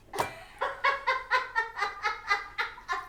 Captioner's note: laughing